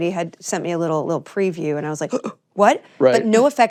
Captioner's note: gasps